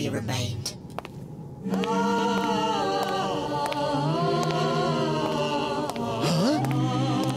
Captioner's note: footsteps